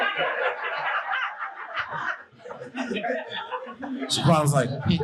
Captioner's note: audience laughing